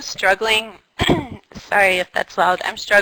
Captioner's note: cough